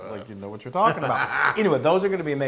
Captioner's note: laughs